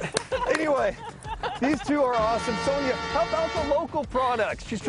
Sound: laughter

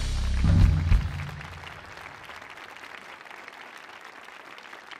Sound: applause

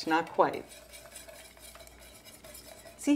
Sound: whisking

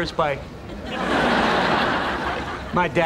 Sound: background laughter

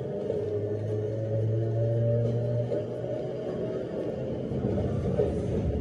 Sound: train revving

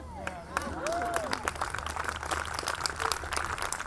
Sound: audience clapping

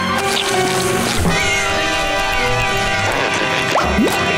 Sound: meowing

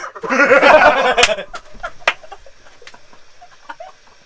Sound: everyone laughing

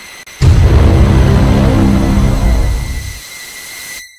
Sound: dramatic foghorn

